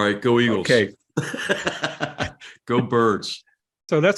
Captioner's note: laugh